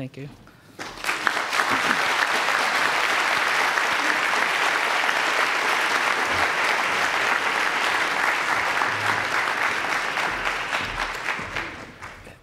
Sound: applause

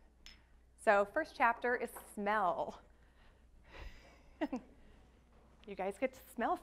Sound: laughs

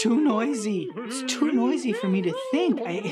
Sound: critters cheering and mumbling; critters mumbling loudly

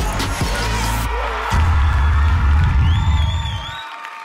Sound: crowd shouts

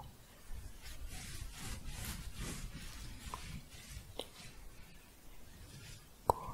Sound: shuffling

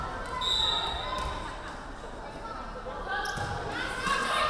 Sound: referee whistling

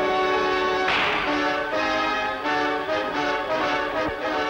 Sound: shot cracks

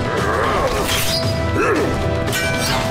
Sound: grunting

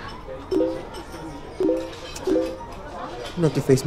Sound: multiple notifications sound

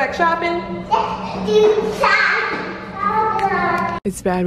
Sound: child talking

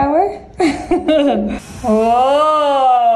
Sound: laughs

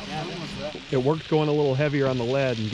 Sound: fish splashing

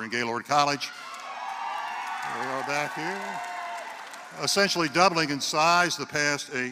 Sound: applause

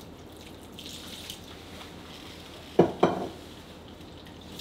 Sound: water pouring

